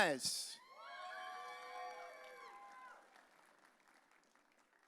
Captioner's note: audience cheering